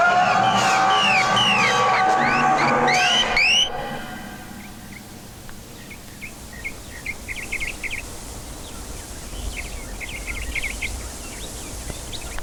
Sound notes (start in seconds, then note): 2.1 eerie music; 4.2 birds chirping